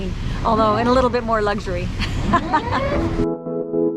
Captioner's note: laughs; gentle music